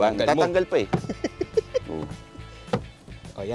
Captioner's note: laughs